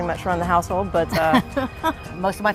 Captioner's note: chuckles